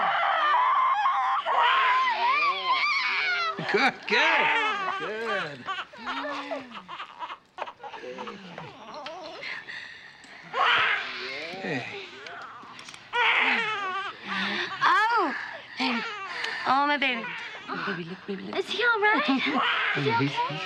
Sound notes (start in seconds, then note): 0.2 baby crying